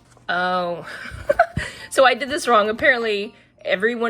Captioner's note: laughs